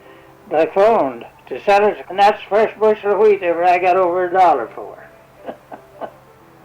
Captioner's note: chuckles